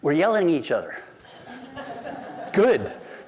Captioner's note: laughter